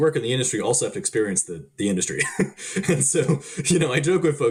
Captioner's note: chuckling